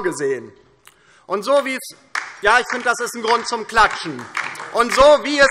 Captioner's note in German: Beifall DIE LINKE